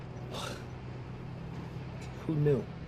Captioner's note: Robert scoffing